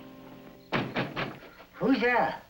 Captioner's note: knocks